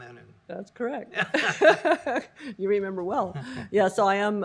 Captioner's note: laughter